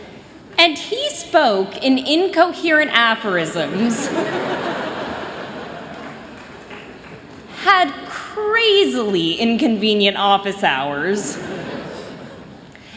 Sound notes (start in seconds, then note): 3.7 laughter